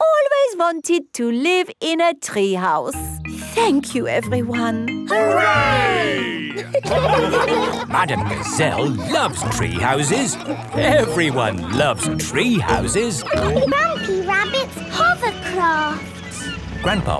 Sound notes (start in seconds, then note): 7.3 laughing